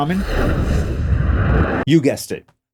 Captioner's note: afterburners whooshing